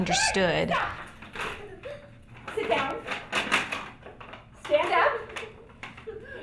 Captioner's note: giggles and sits; giggles and stands